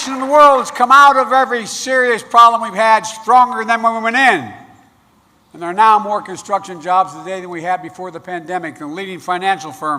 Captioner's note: applause